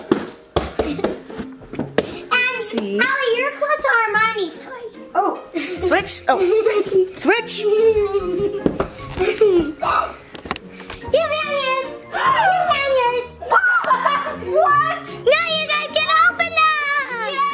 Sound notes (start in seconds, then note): 9.0 giggles; 9.8 gasps; 12.1 gasps